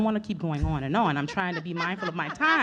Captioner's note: laughing